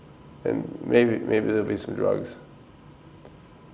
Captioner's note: none